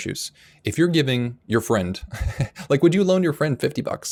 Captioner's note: chuckling